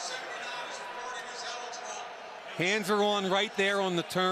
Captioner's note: pa announcement